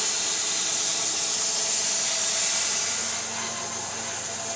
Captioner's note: machine whirring